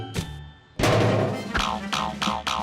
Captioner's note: thuds